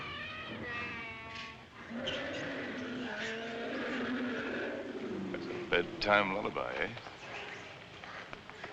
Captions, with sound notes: [ Lion Roaring ] That's a bedtime lullaby, eh?